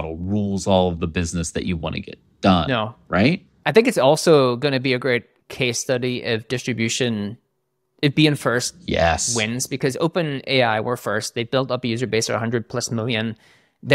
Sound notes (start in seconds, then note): none